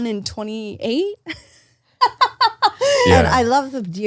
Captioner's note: laughs